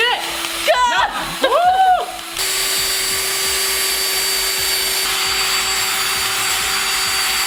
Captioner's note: drill whirring; both shouting